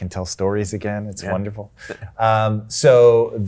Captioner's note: chuckles